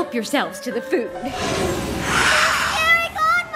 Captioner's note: hiss